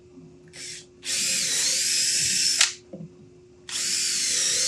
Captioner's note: drill whirring